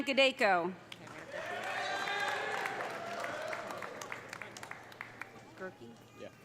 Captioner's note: audience applauding; audience cheering